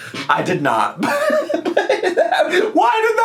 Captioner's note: laughs